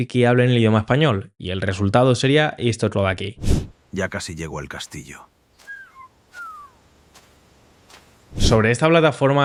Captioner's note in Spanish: resoplido